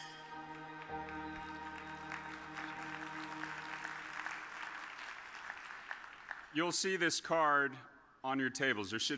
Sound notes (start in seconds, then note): 0.2 audience applauds